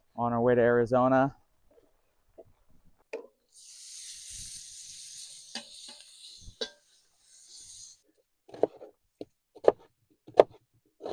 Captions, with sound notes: On our way to Arizona *bacon sizzling on the griddle* *chopping an onion sounds*